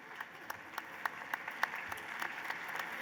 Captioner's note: applause